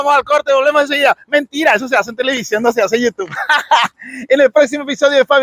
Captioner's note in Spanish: risas